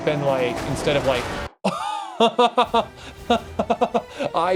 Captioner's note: laughter